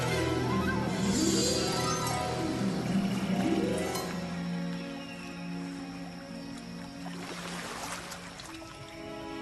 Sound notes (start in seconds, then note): 2.5 rising orchestra; 6.7 ocean splashing